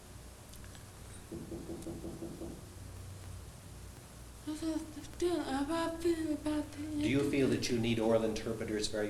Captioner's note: knocking on a door